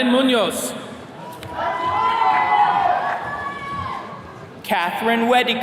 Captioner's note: attendees cheering